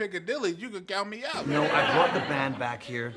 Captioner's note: audience laughs